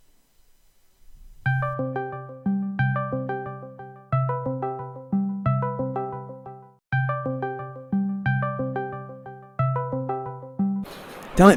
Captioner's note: Discord ringtone